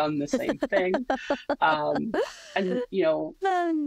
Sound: laughs

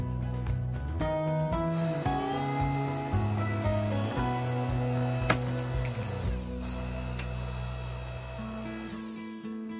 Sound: electric wood splitter sound

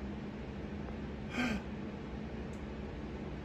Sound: gasps in shock

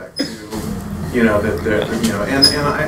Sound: laughing

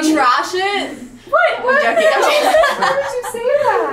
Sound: laughing

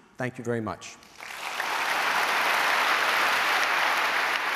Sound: applause

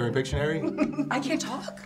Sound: giggling

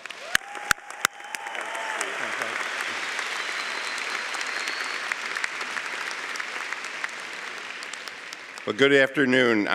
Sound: cheering & Applause

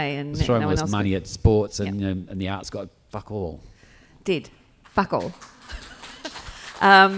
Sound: applause

